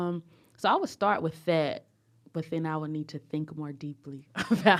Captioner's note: laughter